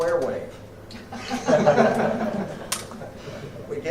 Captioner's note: laughter